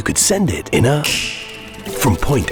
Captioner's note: fingers snap